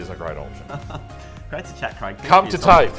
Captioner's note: soft chuckles